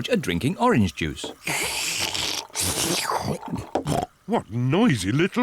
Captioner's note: both slurping